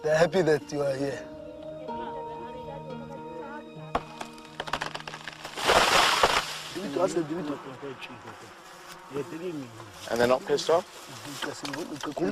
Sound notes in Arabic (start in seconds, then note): 7.0 التحدث بلغة أجنبية